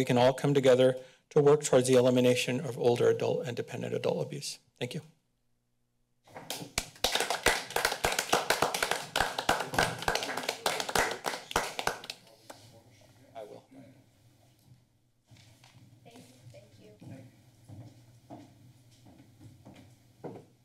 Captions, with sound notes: can all come together to work towards the elimination of older adult and dependent adult abuse. Thank you. [applause] - Thank you. I will. - All right. - Thank you. - Thank you.